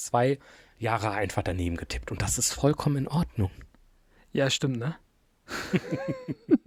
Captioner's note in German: gelächter